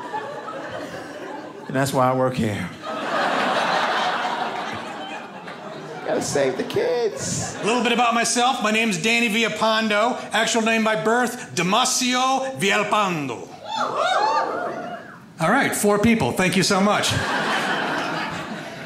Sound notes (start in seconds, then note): 0.0 audience laughing; 2.7 audience laughing; 13.6 audience cheers; 17.0 audience laughs